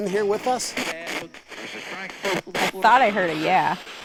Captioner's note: spirit box voice